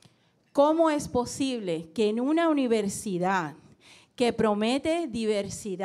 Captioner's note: speaking in foreign language